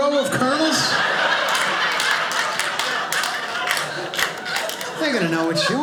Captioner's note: audience laughing